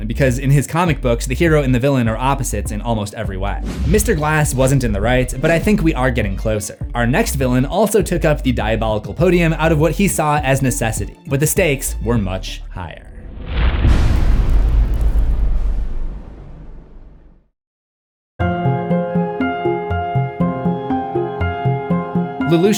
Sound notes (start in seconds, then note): 13.3 impact